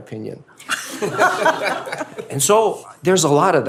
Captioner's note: laughter